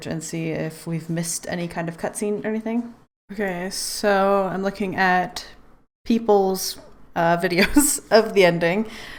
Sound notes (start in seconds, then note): 7.3 laughs